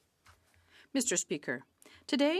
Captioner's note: speaking French